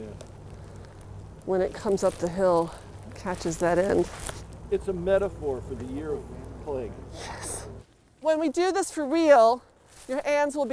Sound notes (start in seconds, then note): 7.2 breathless